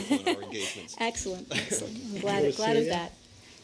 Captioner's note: laughter